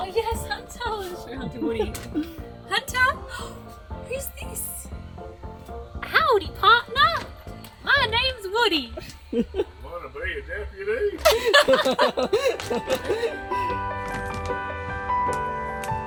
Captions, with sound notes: - Ah, yes. Hunter. I'll show him to Woody. Hunter, who's this? Howdy partner! My name's Woody. - (imitating Woody's voice) Want to be a deputy? (laughing) (sentimental music)